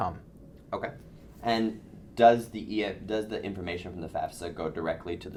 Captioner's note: voiceover